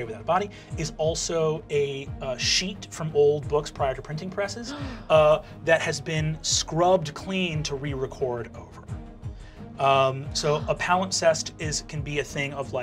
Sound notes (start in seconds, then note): 4.7 gasps